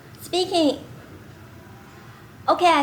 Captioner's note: speaking